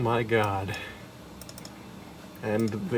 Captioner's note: double clicks with mouse